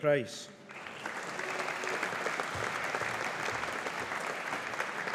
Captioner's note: audience applauding